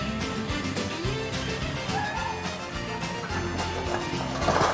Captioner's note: Los neumáticos chirrían